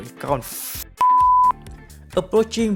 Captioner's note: beep